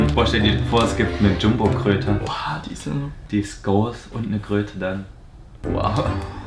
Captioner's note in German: none